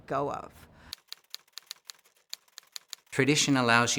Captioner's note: keyboard keys clicking